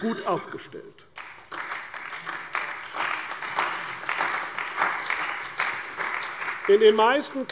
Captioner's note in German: Beifall bei der CDU und dem BÜNDNIS 90/DIE GRÜNEN